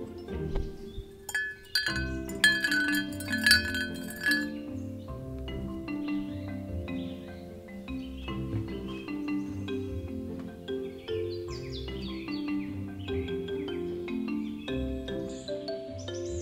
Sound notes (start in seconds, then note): 1.2 spoon clinks on tea cup